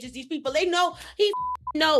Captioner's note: beep